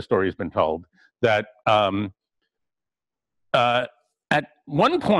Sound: pause

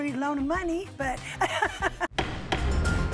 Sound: laughs

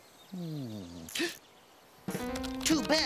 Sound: gasps

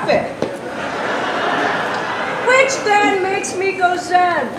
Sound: laughter

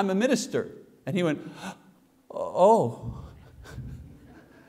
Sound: gasps

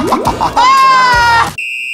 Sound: screaming

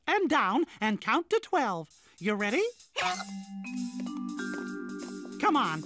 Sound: hiccups

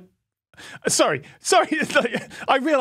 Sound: laughs

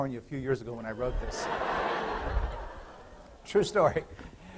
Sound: laughter

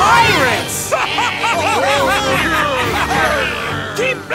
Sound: evil laugh

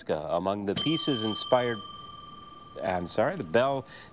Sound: bell dings

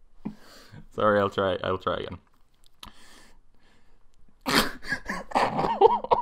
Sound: laughs

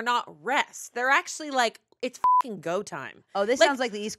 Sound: beep

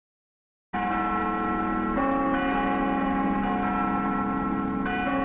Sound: bells ringing

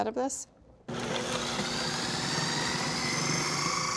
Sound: whirring

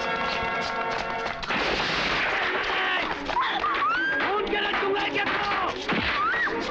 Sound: gunshot

